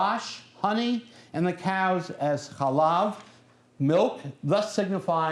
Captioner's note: non-english speech; non-english speech